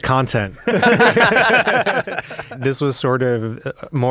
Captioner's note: laughing